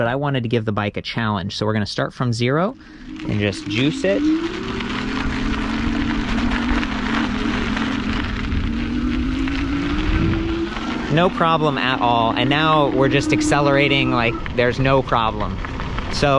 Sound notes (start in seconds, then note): 4.5 motor revving; 8.6 air whooshing